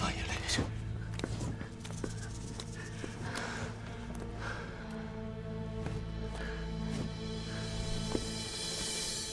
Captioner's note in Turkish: Ayak sesi